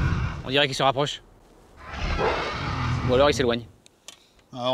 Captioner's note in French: Cri du dragon